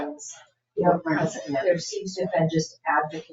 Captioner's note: people chattering